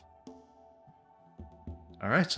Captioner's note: silence